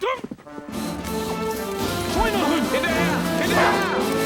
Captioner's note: speaking german